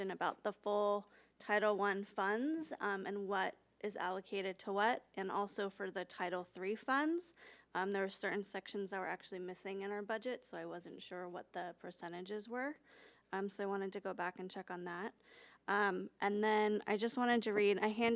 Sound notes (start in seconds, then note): none